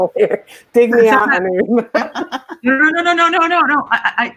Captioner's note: laughs